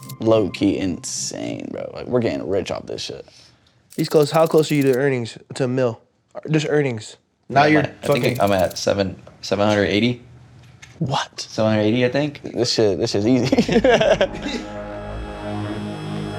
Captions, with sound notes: Low key insane, bro. Like, we're getting rich off this shit. He's close. How close are you to earnings, to mil? -Just earnings. Now you're fucking... -I think I'm at 7... 780. -What? -Seven hundred eighty, I think. -This shit... this shit's easy. [laughs] -[chuckles]